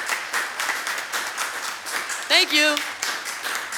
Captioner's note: applause